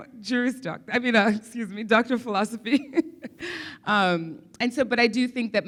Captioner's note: laughs